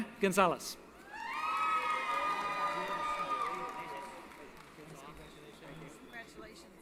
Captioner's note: applause & Cheering